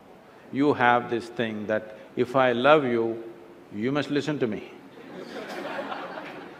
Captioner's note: laughter